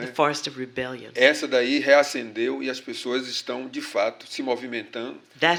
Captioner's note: speaking portuguese